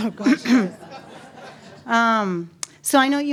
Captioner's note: audience laughs